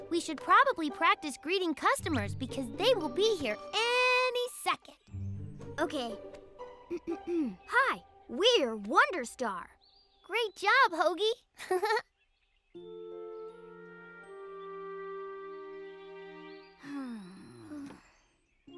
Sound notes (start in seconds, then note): 6.9 clears throat; 11.6 chuckles; 12.7 pleasant music playing; 16.8 sighs wearily